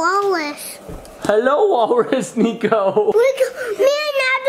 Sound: laughing

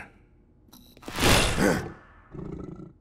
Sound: gasping

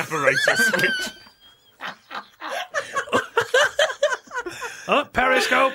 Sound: laughter

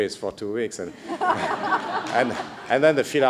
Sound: laughter

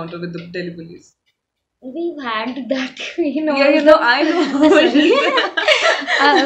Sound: laughs, inaudible

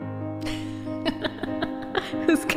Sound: laugh

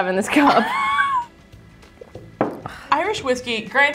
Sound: laughing

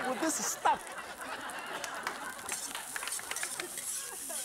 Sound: laughing

